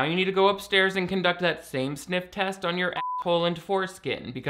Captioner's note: beep